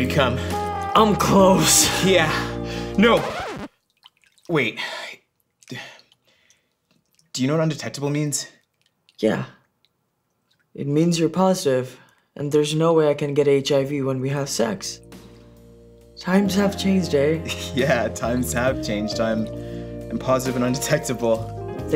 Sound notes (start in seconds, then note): 3.0 record scratch